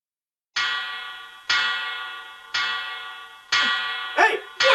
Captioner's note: clock chimes